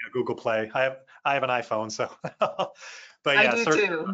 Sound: laughs

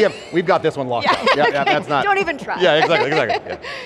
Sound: laughter

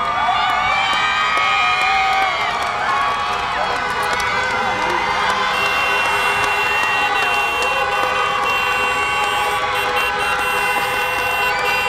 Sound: screams and cheers; honking horns

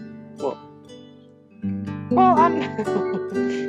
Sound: laughs

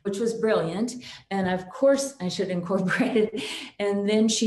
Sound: chuckles

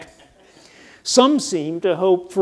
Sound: audience laughs

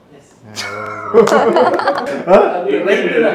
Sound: laughing

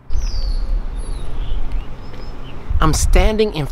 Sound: birds chirping

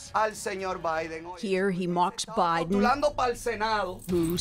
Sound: speaking spanish

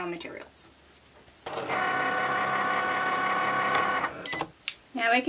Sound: machine whir and beeps

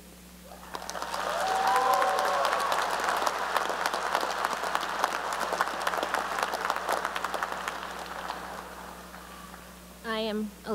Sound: cheering and applause

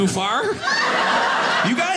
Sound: audience laughing

